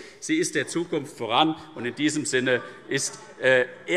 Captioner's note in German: Zuruf